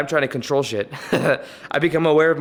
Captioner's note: laugh